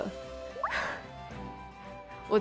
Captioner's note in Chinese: 嘆氣